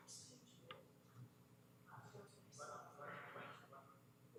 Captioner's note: comments off mic